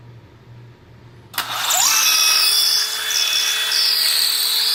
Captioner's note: drill whirs